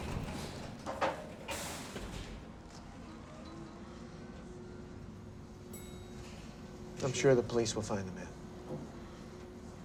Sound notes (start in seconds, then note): 0.0 elevator graunches; 4.2 elevator whirring; 5.7 elevator dings